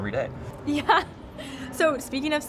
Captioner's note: laughing